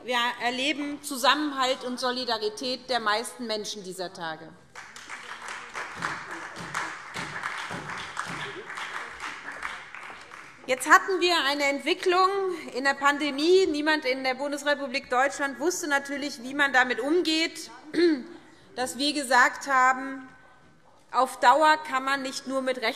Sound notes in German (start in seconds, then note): 4.7 Beifall SPD und vereinzelt BÜNDNIS 90/DIE GRÜNEN